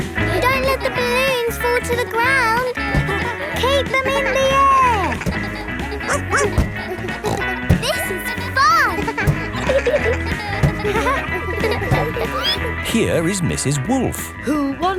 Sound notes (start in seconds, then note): 6.0 barks; 6.0 snorts